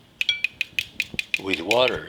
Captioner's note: spoon tapping